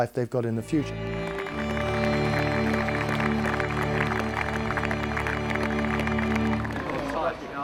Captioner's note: soft orchestral music; crowd clapping